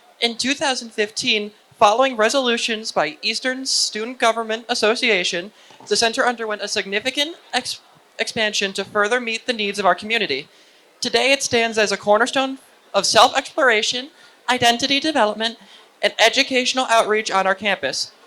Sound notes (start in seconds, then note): none